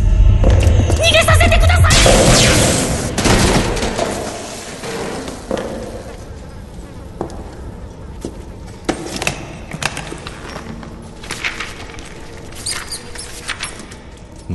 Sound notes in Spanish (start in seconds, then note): 2.0 choque, objeto cayendo; 5.2 pasos acercándose; 9.6 hojeando papeles; 12.4 sonidos de ratas